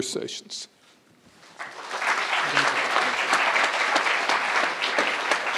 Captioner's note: crowd applauding